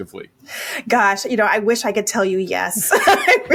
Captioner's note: laughs